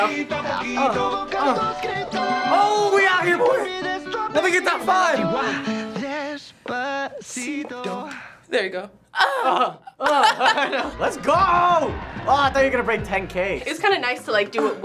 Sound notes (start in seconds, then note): 9.2 both laugh